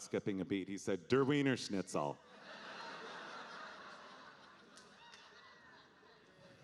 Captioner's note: audience laughing